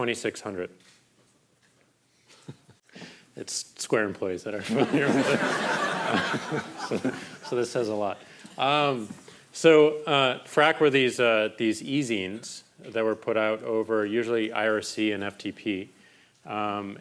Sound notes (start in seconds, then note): 4.6 crowd laughing